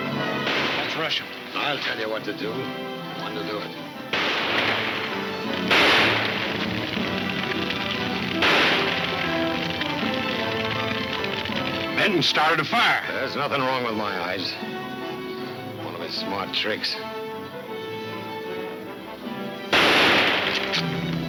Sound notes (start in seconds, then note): 2.8 gunshots banging; 4.4 flames crackling; 19.7 gunshots banging